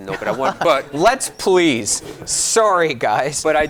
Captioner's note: giggling